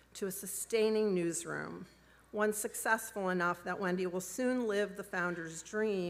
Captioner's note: none